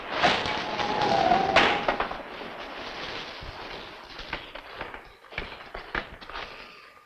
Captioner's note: wind howling; rain pattering